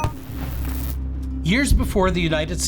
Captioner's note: image popping; somber music